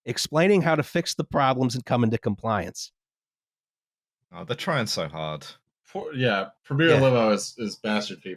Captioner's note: none